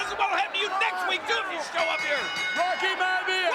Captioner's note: bell dinging